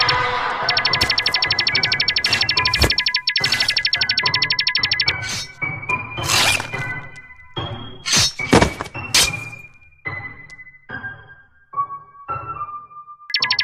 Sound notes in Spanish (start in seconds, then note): 5.1 Abriendo puerta; 6.0 Alarma sonando